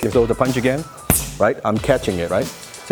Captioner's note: gloves hitting hands